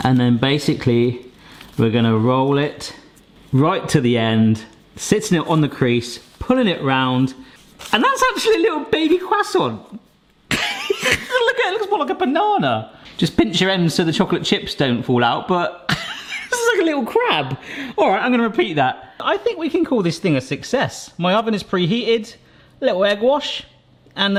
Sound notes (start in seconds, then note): 10.6 laughing; 15.9 chuckles